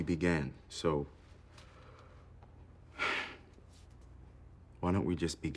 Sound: sighs

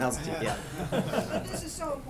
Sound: laughter

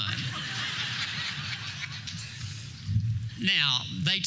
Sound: laughter

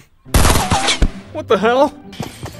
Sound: bullets booming

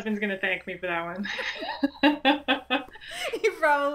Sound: laughs

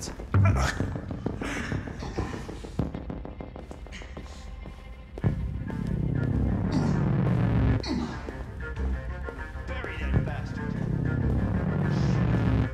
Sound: sounds of struggle continue

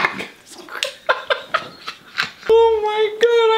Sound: both laughing

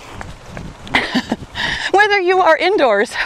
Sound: laughs

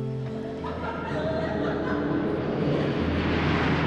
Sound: girls laughing; plane rumbles

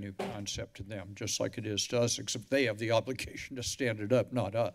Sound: none

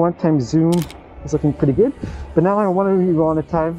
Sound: camera clicking

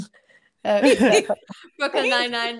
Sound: group laughing

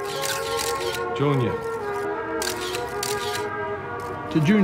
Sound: camera shutter clicking; camera shutter clicking

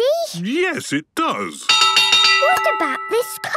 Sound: clanging

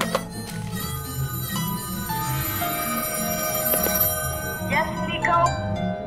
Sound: phone clicking; phone ringing

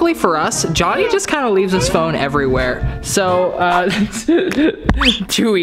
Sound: hehehe

